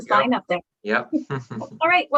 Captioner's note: chuckles